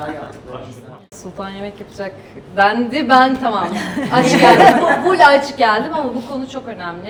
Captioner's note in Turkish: kahkaha